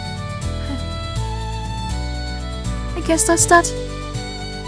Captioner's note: sigh